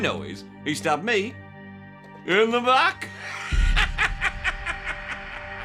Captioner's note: cackles